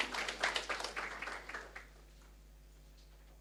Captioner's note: applause